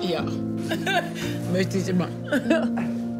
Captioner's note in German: lacht